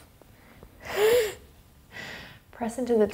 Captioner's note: cheerfully sighs